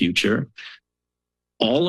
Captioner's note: pause